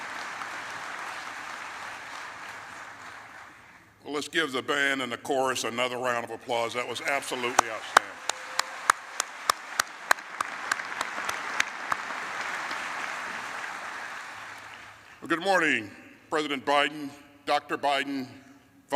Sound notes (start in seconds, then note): 13.0 applause